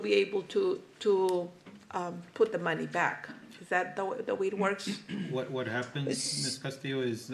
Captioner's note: clears throat